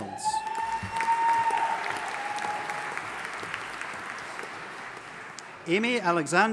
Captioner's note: audience applauding and cheering